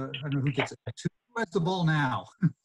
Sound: chuckles softly

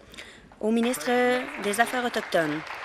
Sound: applause

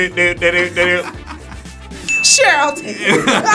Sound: laughs

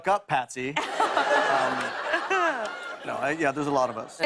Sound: laughter

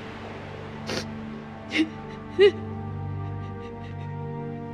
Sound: sniffles, sobs

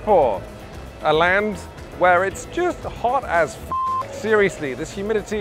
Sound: beep

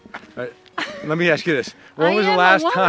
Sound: Tig laughs

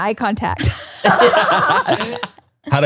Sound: everyone laughs

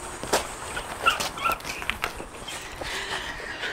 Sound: Cass giggling

